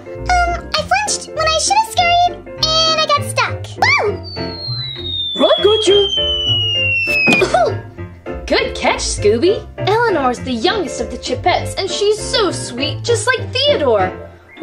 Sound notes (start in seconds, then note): 4.2 descending, high-pitched tone; 4.2 screams